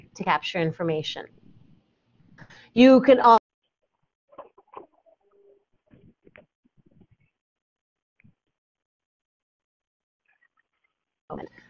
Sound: sound is lost

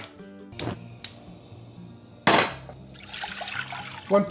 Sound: flame crackles; igniter clicks; water splashes

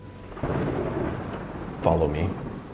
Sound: thunder sounds

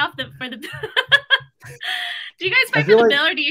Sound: laughs

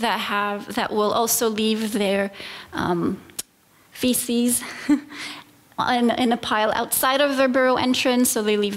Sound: chuckle

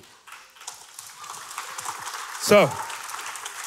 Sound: people clapping

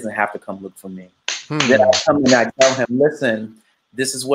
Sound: clapping

